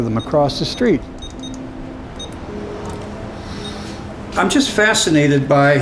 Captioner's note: beeping